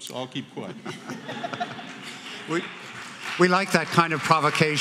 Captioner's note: laughter